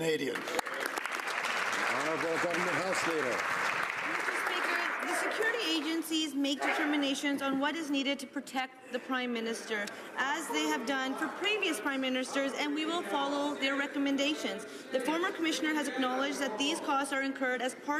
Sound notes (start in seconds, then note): 3.9 some Applause